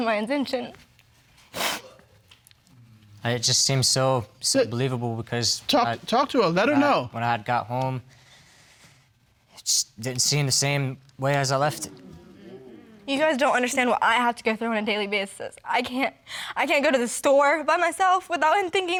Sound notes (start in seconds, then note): 0.2 voice shaking; 2.1 crying; 11.7 audience exclaiming; 16.3 voice shaking